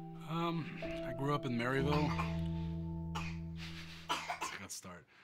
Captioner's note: cough